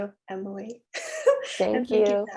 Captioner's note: laugh